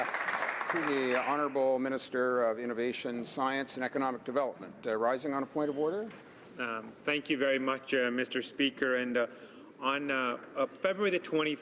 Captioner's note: applause